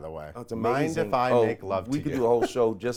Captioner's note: chuckles